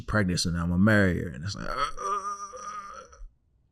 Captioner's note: groans